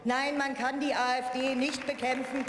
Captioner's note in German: Beifall